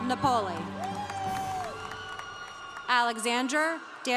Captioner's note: congregation cheering